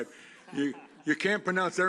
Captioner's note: laughter